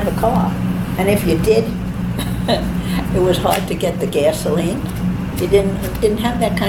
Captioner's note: chuckles